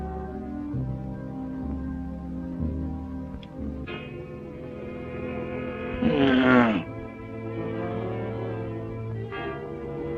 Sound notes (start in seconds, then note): 5.8 grunt